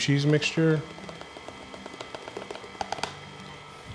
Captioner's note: mixer whirring